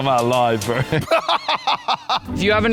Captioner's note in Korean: 웃음